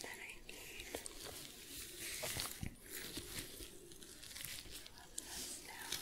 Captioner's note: shuffling, sticky sounds